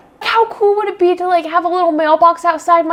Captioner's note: none